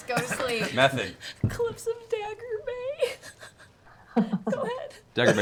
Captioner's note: wheezing